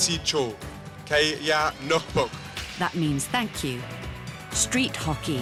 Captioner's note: speaking Inuit